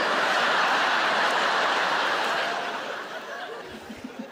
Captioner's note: audience laughing